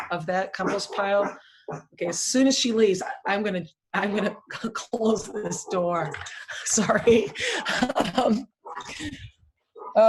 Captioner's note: dog barking